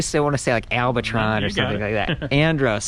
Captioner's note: laughing